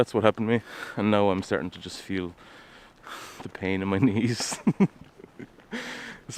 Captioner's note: laughs